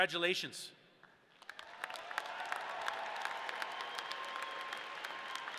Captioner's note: audience cheering